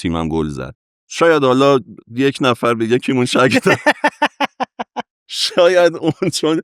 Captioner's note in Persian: خنده